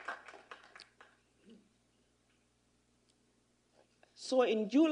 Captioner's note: applause